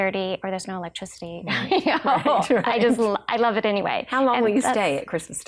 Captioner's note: laughs